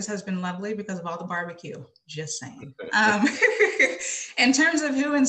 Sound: laughs

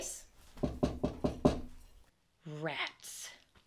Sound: knock knock!

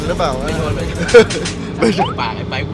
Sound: laughs

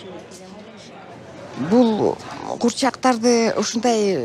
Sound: speaking Kyrgyz

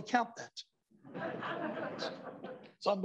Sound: laughter

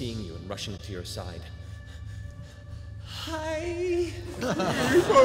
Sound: panting

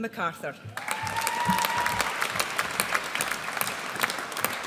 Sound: audience applauds

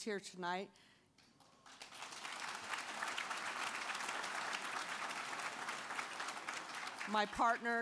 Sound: applause

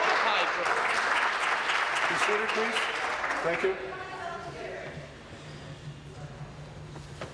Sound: applause

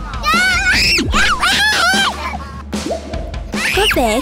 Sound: piercing scream

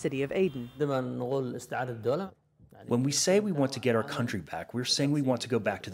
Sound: through translator

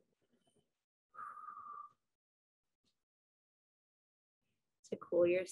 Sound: exhales

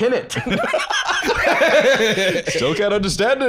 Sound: all laughing

